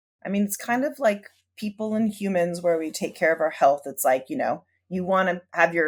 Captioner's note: none